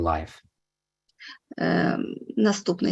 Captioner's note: foreign language